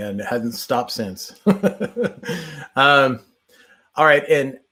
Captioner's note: chuckles